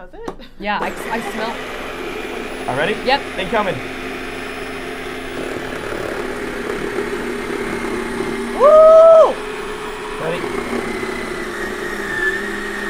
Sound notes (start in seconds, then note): 1.9 ice cream maker whirring